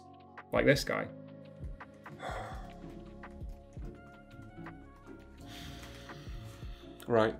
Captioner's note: big obnoxious sigh